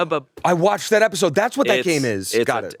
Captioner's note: gasps